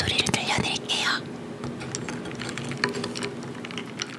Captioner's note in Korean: 얼음 소리